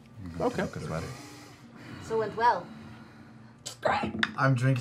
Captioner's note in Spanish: gruñidos y suspiros